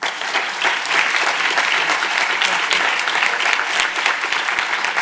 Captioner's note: audience applauds